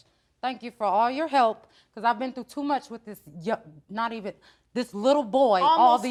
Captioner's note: none